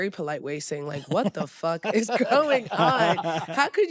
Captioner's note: all laugh